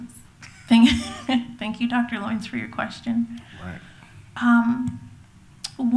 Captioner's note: laughs